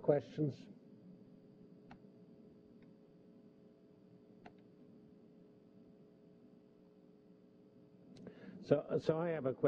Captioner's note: pause